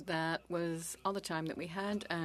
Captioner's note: speaking French